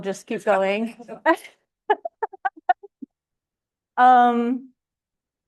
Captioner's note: laughter